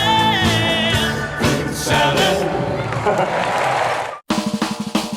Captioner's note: applause